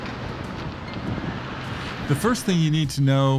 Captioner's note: traffic whirring